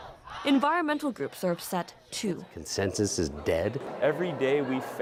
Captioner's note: crowd noise